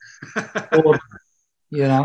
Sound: laughs

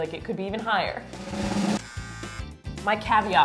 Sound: drum roll; buzz

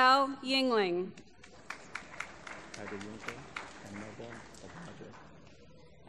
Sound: applause

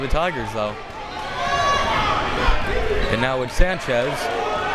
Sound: crowd members shouting

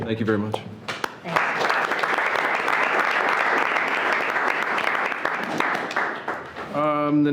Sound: everyone clapping

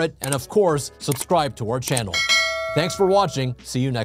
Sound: bell ringing

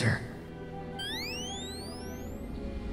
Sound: electronic charging sound

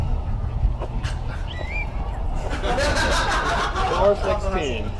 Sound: half-hearted whistle

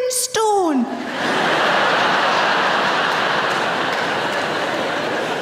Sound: audience laughing

